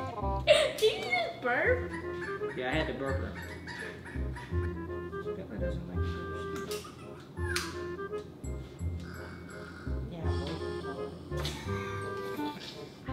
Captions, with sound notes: (laughs) - Did she just burp? - Yeah I had to burp him. (snores)